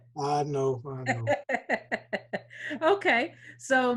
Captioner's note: laughs